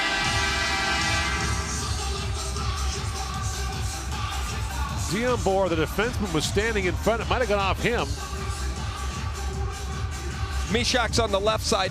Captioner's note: air sirens